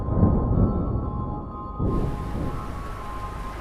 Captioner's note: thunder rumbling